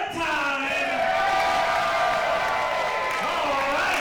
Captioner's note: crowd cheering